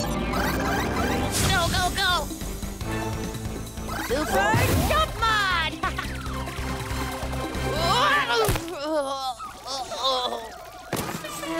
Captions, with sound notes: - Go, go, go. Super jump mod. (laughs) (Cozmo groans)